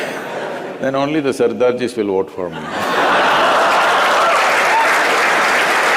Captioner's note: laughs; laughter/Applause